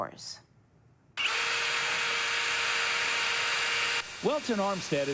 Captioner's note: drill whirring